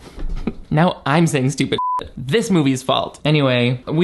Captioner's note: beep